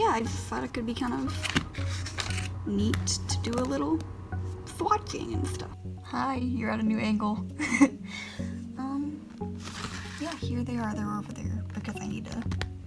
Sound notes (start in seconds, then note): 7.6 laughs